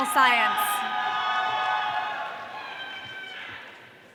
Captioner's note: audience cheering